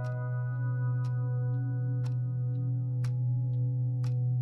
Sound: gentle piano music; clock ticks

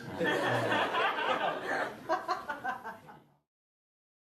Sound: laughter

